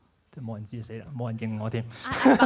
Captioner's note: laughs